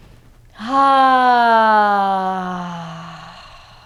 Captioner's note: loud sighing